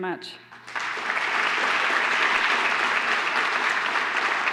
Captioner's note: applause